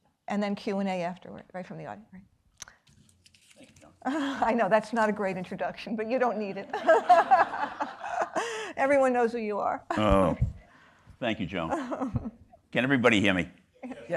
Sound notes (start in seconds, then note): 6.6 chuckles; 6.7 everybody laughing